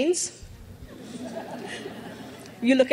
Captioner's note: crowd laughs